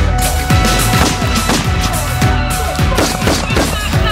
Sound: gunshots; seagull squawks loudly

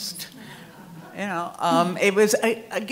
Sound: audience laughing

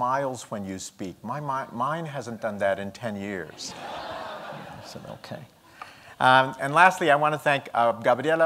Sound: laughter

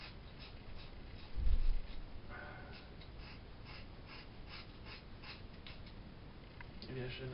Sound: scissors cutting

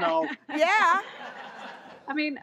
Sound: audience laughs

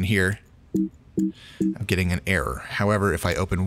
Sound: computer error alerts

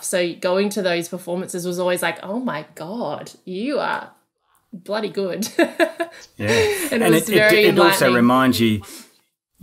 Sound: laughing

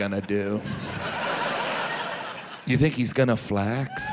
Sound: audience laughs

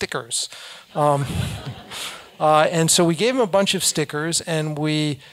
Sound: laugh

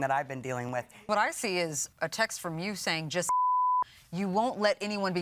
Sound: beeps

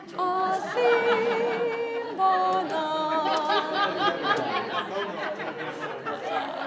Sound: singing in foreign language; laughing; singing in foreign language

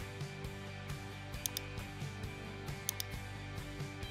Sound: gentle upbeat music; mouse clicking

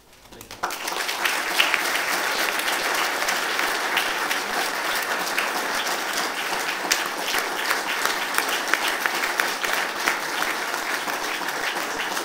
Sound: applause

